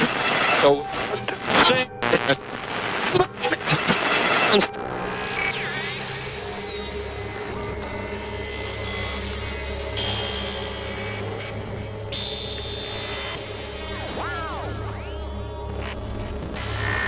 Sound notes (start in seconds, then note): 4.8 electronics whining; 4.8 suspenseful music